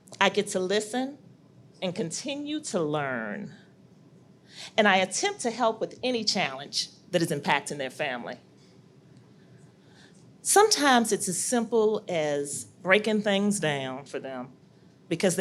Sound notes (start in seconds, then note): none